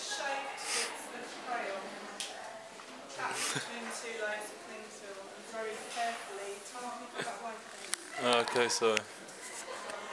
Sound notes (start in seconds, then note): 0.5 nervous nose exhale laughter